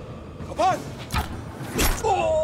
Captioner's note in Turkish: Ok fırlatma sesi